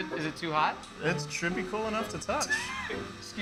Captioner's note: laughs